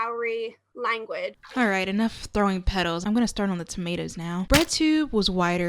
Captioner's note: splat